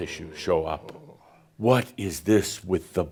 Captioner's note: low tone